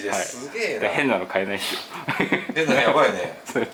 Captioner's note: laughs